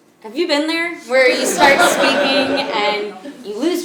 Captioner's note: laugh